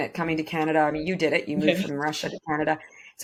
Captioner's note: chuckles